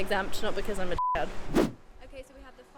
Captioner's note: beep